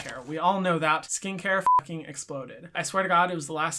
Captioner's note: beep